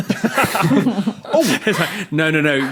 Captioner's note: group laughing